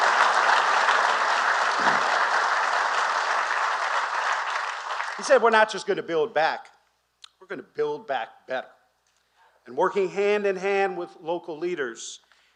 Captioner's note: applause